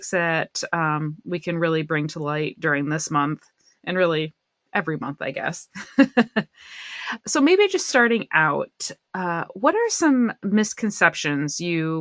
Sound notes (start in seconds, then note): 5.7 laughter